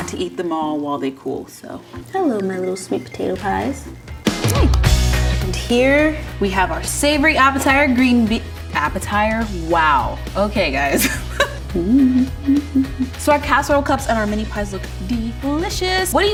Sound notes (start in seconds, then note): 4.5 claps hands; 11.0 laughs